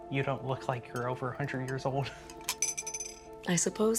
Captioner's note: chuckles